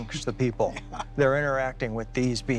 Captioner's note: laughs